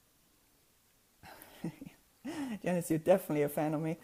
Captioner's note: laughing to herself